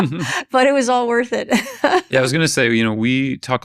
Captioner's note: chuckles